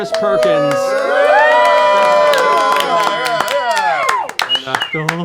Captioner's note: cheering